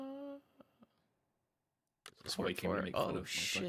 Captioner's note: humming from chat